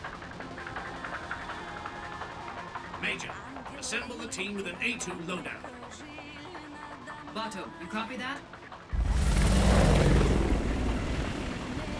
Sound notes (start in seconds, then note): 3.2 over comms